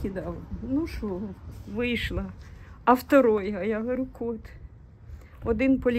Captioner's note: in Russian